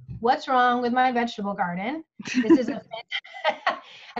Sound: laughs

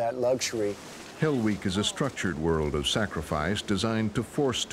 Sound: voiceover

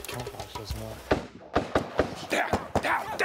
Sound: gunfire

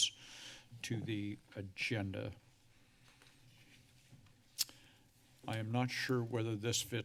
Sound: mouth clicks

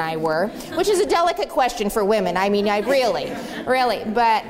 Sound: laughter

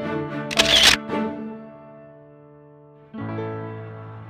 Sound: camera click; cheerful music

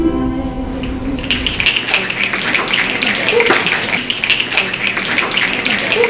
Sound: finger snaps

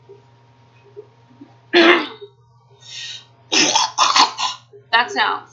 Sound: nasty throat noises

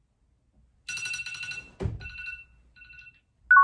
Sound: cell phone alarm sound

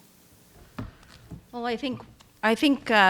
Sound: accessory clattering

